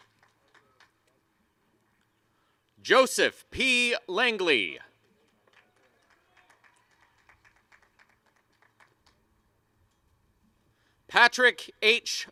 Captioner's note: applause and cheering